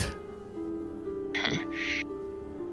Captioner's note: snorts